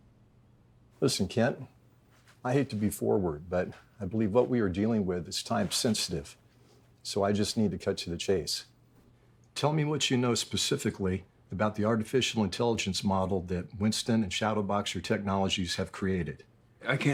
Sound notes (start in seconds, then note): none